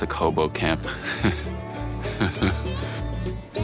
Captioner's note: laughing